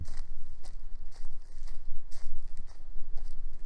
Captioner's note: footsteps